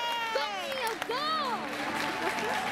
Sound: cheering

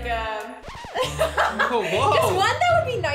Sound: laughing

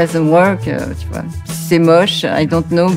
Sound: speaking in French

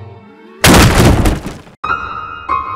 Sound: violently smash desk

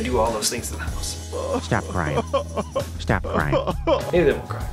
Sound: dog cries

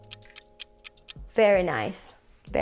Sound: clock ticking

